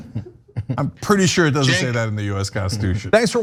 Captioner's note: laugh